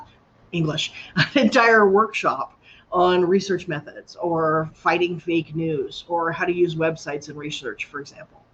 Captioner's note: laughter